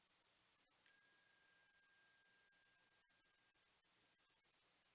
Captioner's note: bell chiming